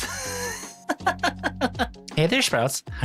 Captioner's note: laughs